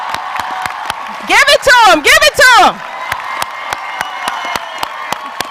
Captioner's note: cheers and applause